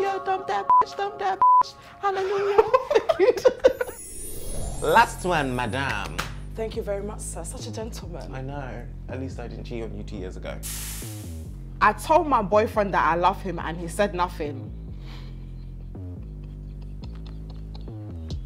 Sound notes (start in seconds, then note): 2.2 both laughing; 4.2 whimsical music; 15.1 laughs